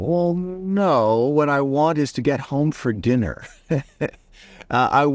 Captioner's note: laughs